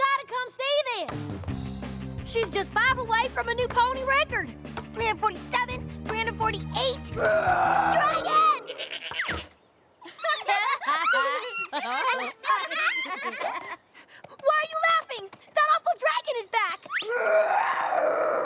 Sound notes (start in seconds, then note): 10.0 laughter; 10.2 bleats